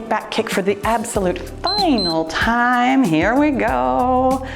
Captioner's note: timer beeps